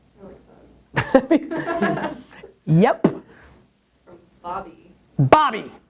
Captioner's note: laughs